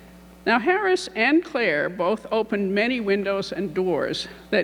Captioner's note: none